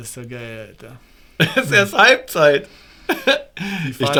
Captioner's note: laughter